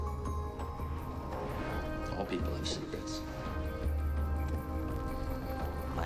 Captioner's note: Adrien Brody's voice over